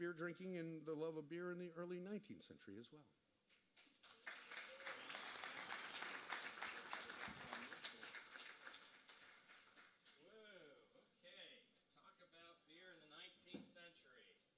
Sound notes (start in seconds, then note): 3.7 applause